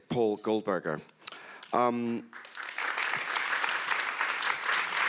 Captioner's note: audience applauds